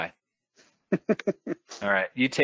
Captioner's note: chuckles